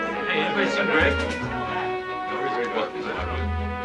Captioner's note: chattering